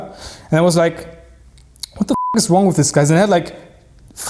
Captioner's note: beep